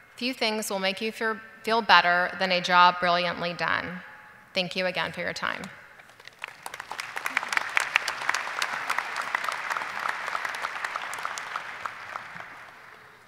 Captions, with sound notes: "Few things will make you feel better "than a job brilliantly done." Thank you again for your time. (audience applauding)